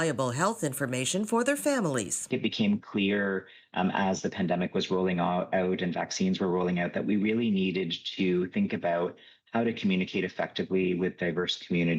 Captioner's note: speaking Indigenous Language